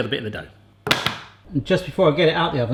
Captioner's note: clattering